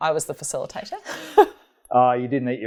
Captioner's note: laughing